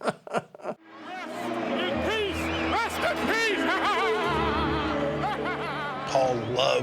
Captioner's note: laughs; laughs